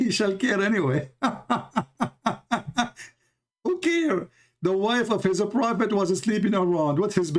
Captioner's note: Ketawa